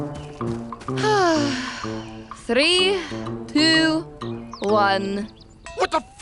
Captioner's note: sighs